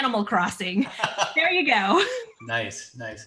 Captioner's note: laughing